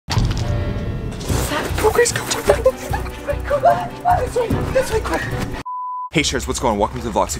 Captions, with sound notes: (loud thump) - What was that? - Go Grace, go. (scared rambling) (beep) - Hey Sharers what's going, welcome to the vlog.